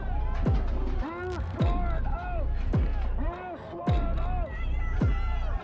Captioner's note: crowd and officers yelling